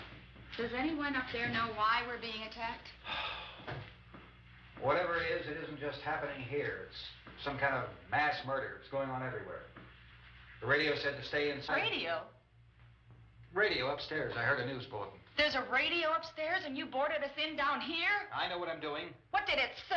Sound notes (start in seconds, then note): 3.0 sighs